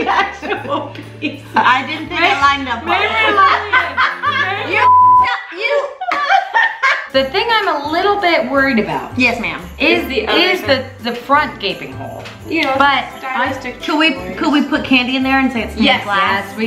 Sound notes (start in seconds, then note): 3.0 laughs; 4.8 beep